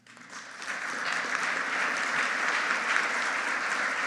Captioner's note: audience applauding